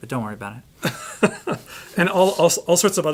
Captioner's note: both laughing